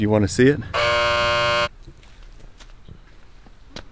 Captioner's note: buzz